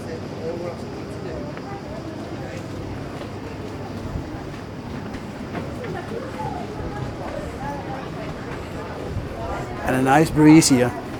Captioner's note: people Speaking